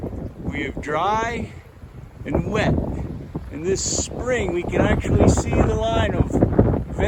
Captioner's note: louder wind noise